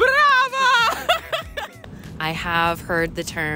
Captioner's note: laughs